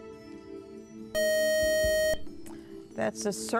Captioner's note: beep